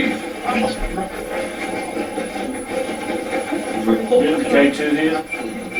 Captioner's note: static playback transmitting